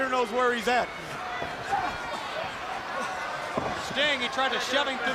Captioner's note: crowd chatter